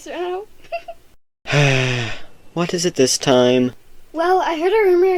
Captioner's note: giggles; sighs